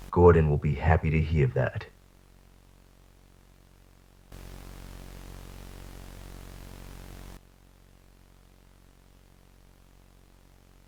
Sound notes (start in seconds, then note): 4.3 Static